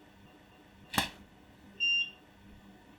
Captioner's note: camera shutter